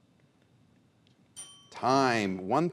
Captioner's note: bell chimes